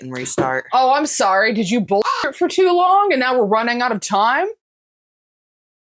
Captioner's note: caw